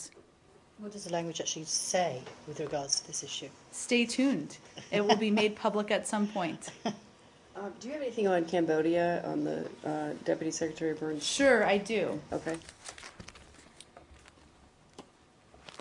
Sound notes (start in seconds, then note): 6.6 laughter